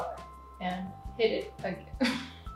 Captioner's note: giggles